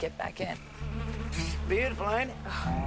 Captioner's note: buzzing